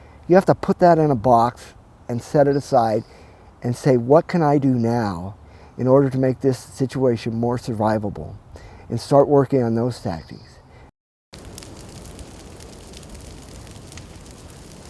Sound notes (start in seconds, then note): 11.3 fire crackling